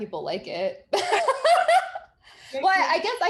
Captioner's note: both laughing